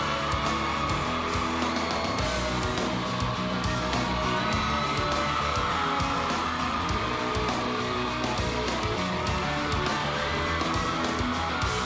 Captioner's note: cheers and applause